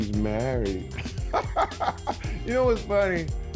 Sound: laughs

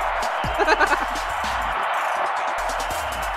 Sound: laughs

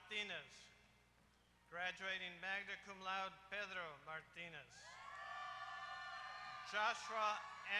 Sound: applause

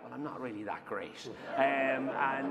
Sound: laughter

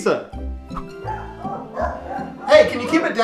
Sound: dogs barking

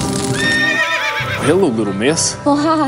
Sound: horse neighs

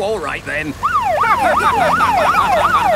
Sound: siren wailing; laughing

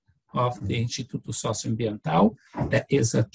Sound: foreign language

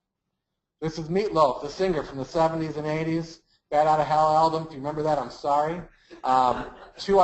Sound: laugh

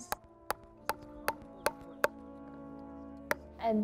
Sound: hammering

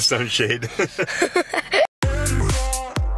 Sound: laughter; upbeat music

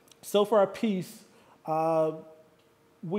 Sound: none

